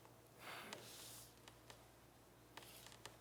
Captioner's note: sighs